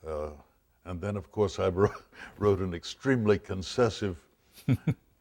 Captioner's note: laughs